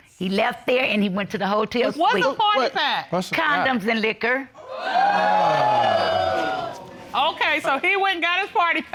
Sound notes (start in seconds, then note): 4.6 audience exclaiming